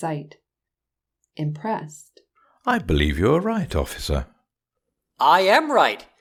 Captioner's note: impressed